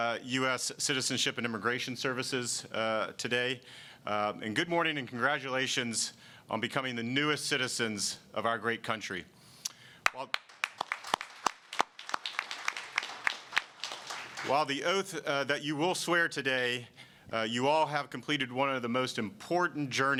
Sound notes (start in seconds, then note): 10.0 applause